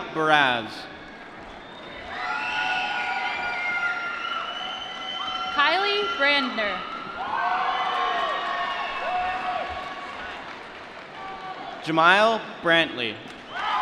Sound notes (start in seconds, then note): 2.3 cheering; 6.9 applause